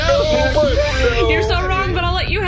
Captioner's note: crying